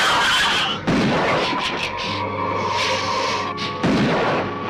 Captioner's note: gun firing; lizard screeching